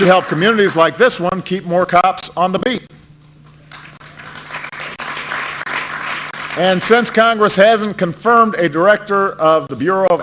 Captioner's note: applause; applause